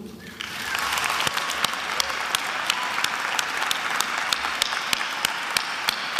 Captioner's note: attendees applauding and cheering